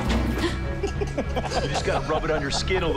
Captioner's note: laughs